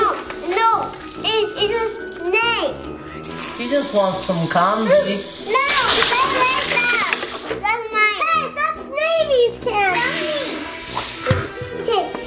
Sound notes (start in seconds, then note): 2.9 imitates snake hissing; 9.8 imitates snake hissing